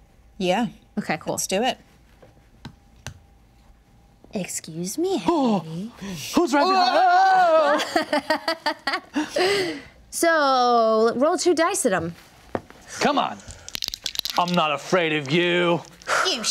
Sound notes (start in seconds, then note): 6.6 screaming; 8.2 laughing